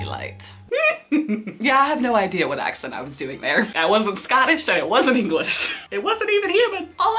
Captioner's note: laughs